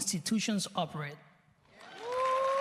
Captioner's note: cheers and applause